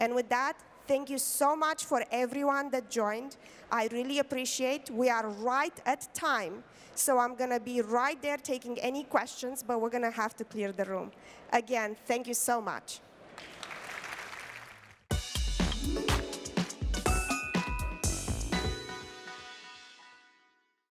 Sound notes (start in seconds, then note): 13.3 applause